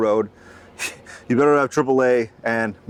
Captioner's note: chuckles